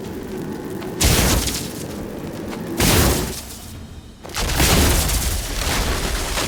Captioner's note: electricity crackles; ice cracking